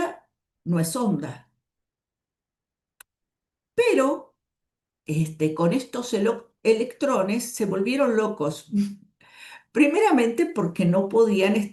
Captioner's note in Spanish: carraspeo